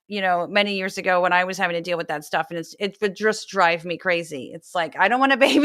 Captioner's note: laugh